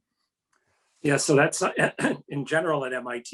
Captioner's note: coughs